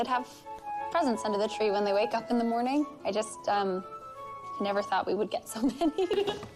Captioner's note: giggles